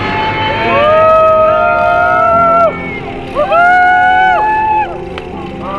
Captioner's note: cheers